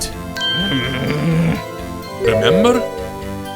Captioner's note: growling